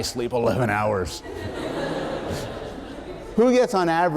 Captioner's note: laughter